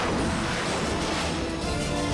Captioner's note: jets whoosh past